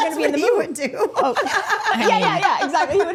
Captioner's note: group laughing